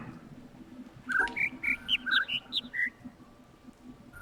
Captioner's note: overlapping birds chirping, ˥ ˧ ˥ ˩